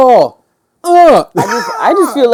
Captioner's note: grunting